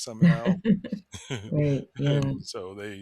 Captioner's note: laughs